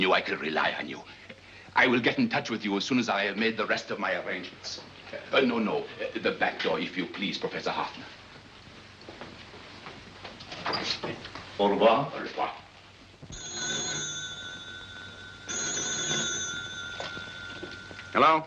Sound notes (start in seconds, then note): 10.5 door opens; 13.3 telephone rings